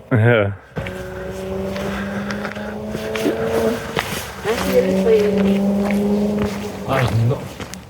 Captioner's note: engine noise